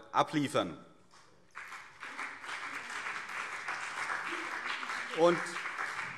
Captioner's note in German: Beifall CDU und BÜNDNIS 90/DIE GRÜNEN